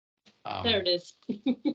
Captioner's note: laughing